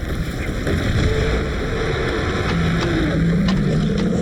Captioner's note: shark roaring